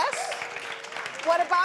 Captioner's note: applause